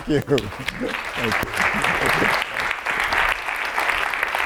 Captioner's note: applause